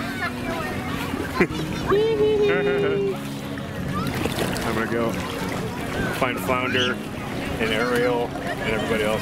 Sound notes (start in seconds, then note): 0.8 laughing